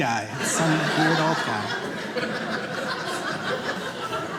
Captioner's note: audience laughing